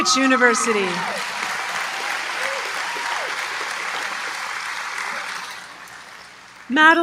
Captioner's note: applause